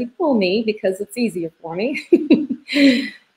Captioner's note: laughs